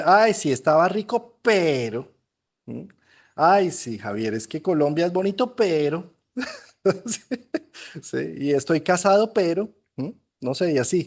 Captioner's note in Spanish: risas